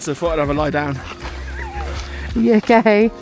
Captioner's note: laughs